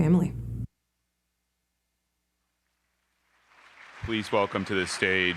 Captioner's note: applause